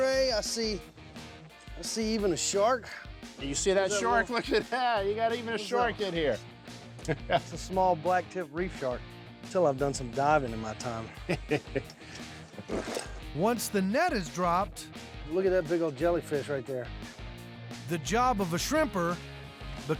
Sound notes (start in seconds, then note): 11.1 chuckling